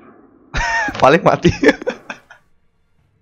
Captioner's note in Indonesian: ketawa